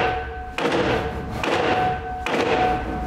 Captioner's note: loud hammering